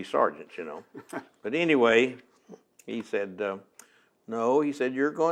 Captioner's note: laughs